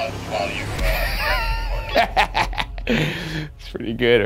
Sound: chuckles

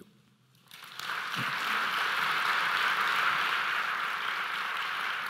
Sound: audience applauds

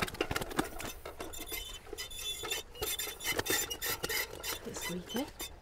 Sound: fish flapping; scale creaking

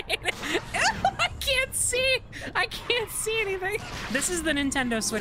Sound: laughing

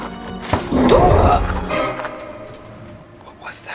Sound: roaring

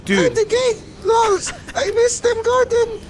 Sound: quiet Laughter

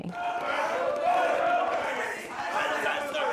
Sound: yelling

